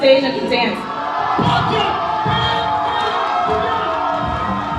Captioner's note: audience cheering